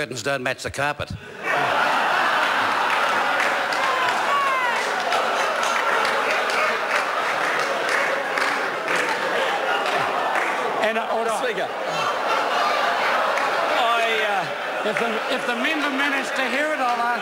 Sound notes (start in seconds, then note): 5.1 members laugh